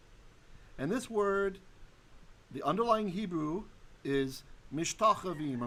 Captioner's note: Hebrew